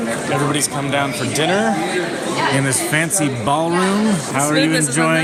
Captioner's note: none